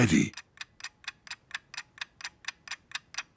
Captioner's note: ticking